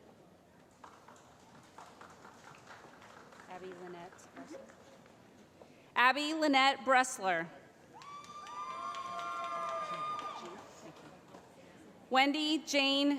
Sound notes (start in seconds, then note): 0.7 applause; 8.0 cheering